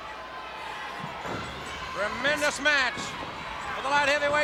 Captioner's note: footsteps plodding